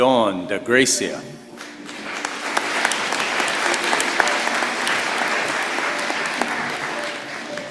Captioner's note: applause